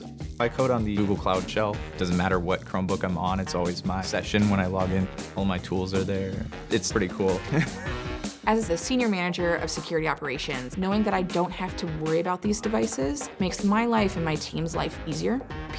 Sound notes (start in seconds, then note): 7.4 laughs